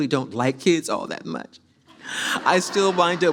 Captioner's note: audience laughs